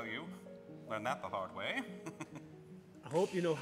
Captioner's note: chuckles